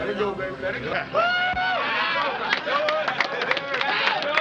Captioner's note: cheers and applause